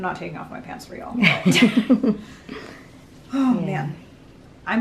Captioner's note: laughing